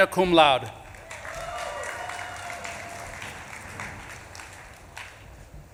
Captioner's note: audience claps and cheers